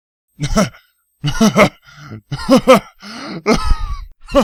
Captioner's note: starting to laugh; laughing